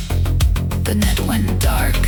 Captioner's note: whispered